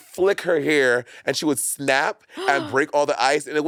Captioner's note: gasping